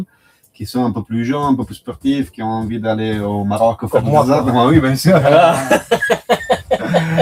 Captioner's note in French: rires